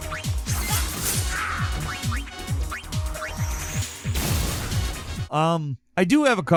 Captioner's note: power ups bleeping; upbeat disco music; power ups bleeping; sword slashing